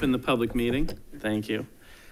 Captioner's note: gavel bangs